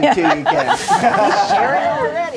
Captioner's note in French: rires du groupe